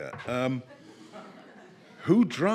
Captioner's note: people laughing